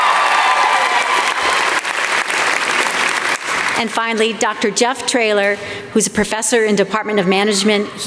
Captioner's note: applause